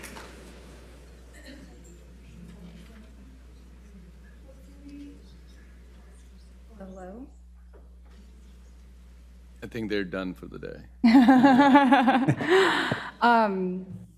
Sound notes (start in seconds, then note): 1.1 people chattering; 11.0 laughing